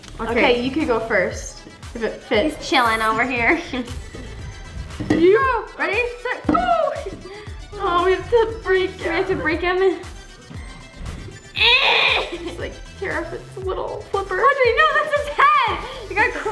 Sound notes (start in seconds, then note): 11.5 grunting noises